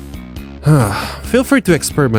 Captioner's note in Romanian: Sigh